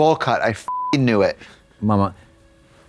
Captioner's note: beep